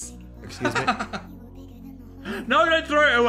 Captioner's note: Phil laughs